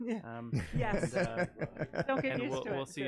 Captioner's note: laughing